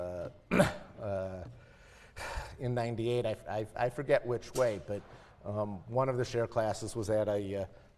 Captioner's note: cough